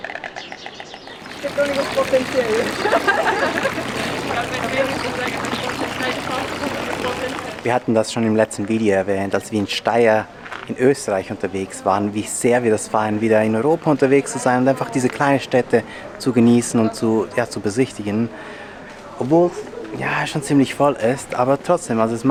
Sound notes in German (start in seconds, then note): 1.3 Lachen